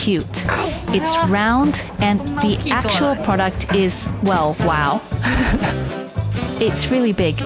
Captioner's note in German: lacht